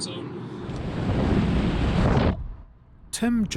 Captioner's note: car rolling